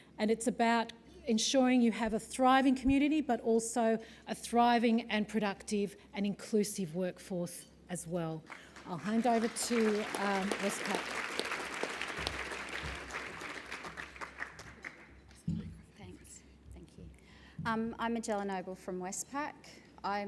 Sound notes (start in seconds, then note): 8.4 applause